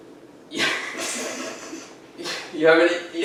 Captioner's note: laughing